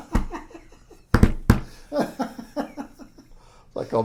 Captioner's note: laughs